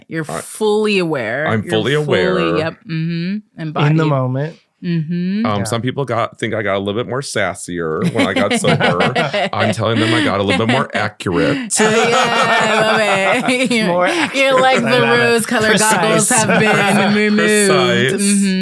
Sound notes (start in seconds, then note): 11.2 all laughing